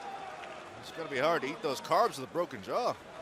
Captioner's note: crowd cheering